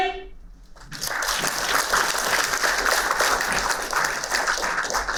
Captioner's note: applauding